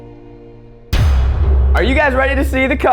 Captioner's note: metal clang